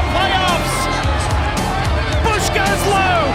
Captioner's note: crowd cheering